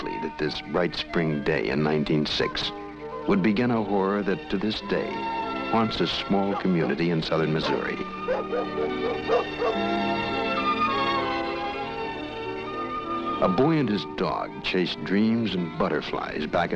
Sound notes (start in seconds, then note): 8.2 dog barking; 8.3 pastoral music